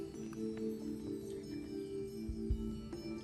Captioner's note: whispering